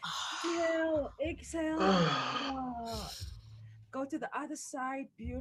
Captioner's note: exhaling audibly